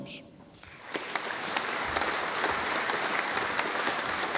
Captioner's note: audience applauding